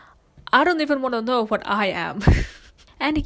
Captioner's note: laughs